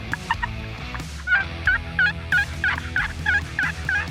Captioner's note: turkey call